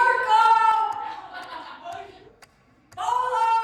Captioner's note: inmates laughing